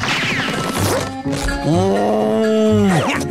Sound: mooing

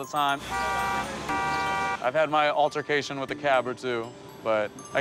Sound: honking

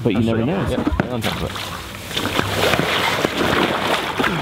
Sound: water splashing

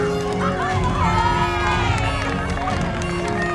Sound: cheers

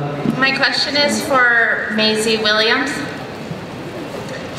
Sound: voiceover

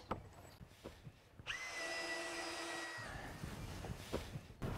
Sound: drills whirring, no additional audio

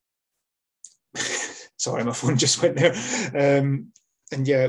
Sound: laughs

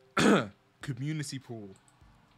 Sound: cough

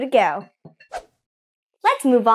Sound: air whooshing

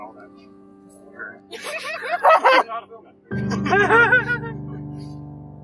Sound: laughing

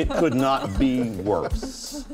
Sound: laughter

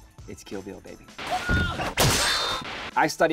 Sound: sword slicing

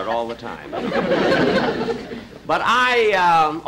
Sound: audience Chuckling

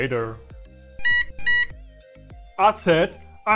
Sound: beep

